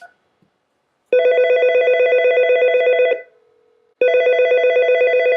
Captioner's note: alert ringing